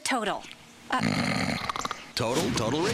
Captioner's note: snoring